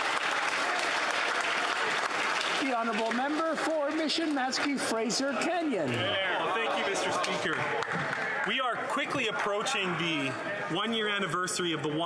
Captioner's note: applause